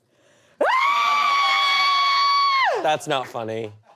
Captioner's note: screams